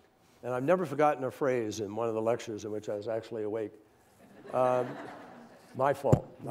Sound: laughter

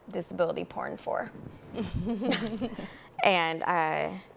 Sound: chuckle

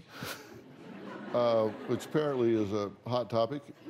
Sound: chuckles

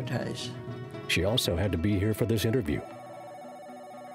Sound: voiceover

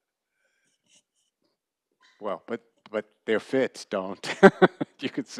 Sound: laughter

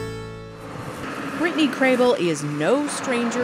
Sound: harvester rumbles

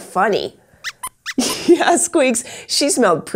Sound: squeaks squeaks

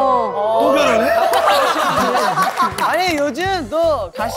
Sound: laughing

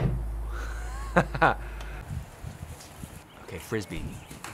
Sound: chuckles

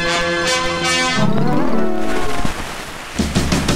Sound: tape glitch sounds

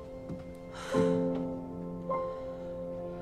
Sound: sighs

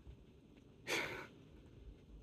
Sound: sensible chuckle

